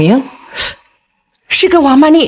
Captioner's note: gasps